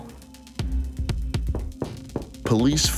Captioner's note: knocking